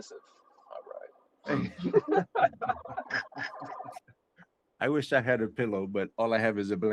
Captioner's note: laughter